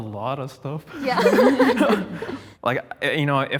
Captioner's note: group laughs